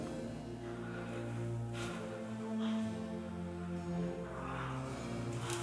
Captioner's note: Heathcliff breathing hard; soft music